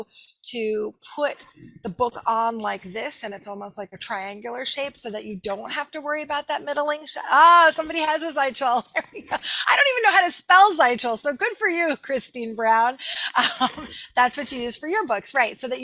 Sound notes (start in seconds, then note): 8.8 laughing